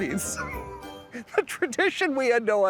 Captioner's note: laughs